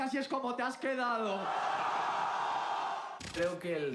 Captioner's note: cheers